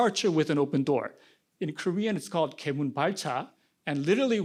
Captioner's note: korean